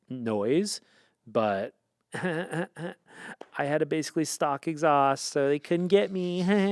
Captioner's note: laughs